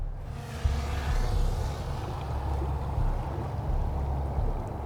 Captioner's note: drone buzzing overhead